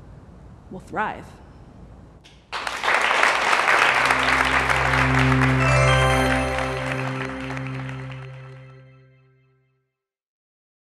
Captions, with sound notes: We'll thrive. [Applause]